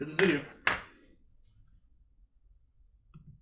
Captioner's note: gavel bangs